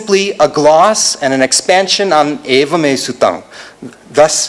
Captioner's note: non-english speech